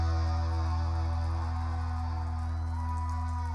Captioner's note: applause